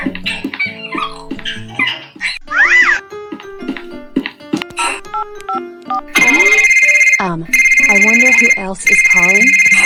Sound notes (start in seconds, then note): 6.1 phone ringing